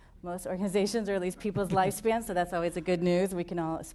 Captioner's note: laughter